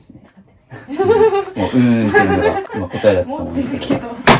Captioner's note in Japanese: 笑い